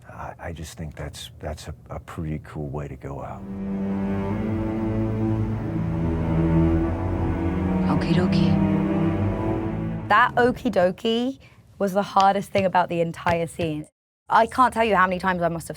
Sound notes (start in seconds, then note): 3.4 suspenseful music; 13.2 hands thumping